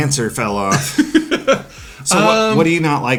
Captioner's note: laughs